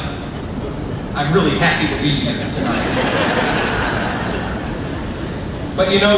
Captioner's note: crowd laughing